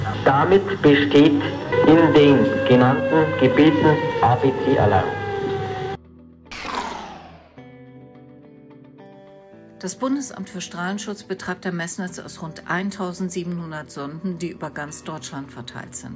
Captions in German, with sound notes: Damit besteht in den genannten Gebieten ABC-Alarm. (Sirene im Hintergrund) Das Bundesamt für Strahlenschutz betreibt ein Messnetz aus rund 1.700 Sonden, die über ganz Deutschland verteilt sind.